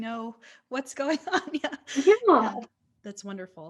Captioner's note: laughs